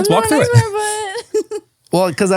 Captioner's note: laughs